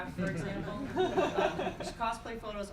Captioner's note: crowd giggling